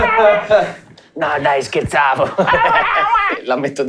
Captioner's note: scared chirping; laughing; furious chirping